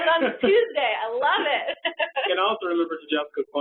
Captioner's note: laughs